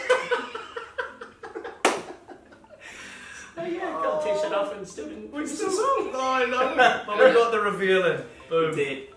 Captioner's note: laughing